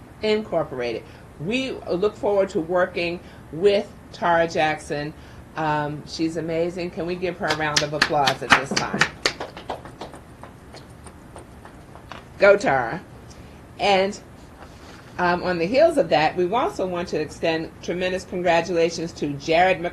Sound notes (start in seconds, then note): 9.3 clapping